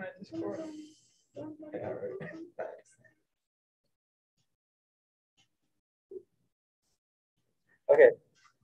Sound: group chattering

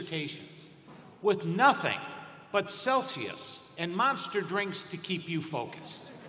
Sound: laughter

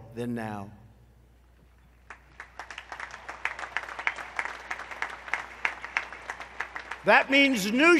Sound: applause

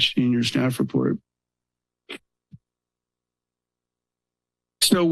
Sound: pause

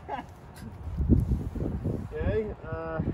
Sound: laughter

